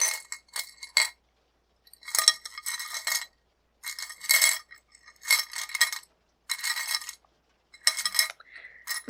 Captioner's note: jewelry clinking